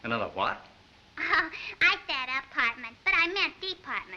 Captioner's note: chuckles